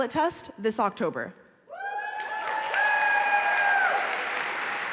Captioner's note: applause